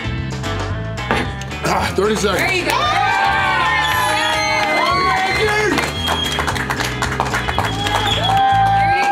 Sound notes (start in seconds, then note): 2.0 crowd; 2.6 cheering